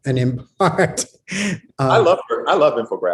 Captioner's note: laughs